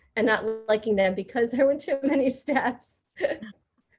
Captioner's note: laughing